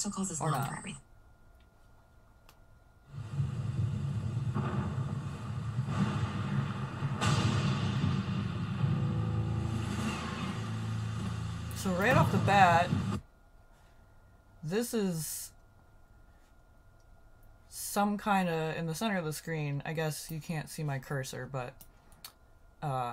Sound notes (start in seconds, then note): 4.1 thunder and lightning